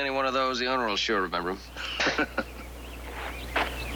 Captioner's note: chuckling